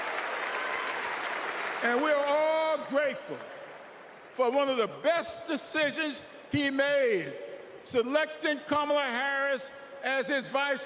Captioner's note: applause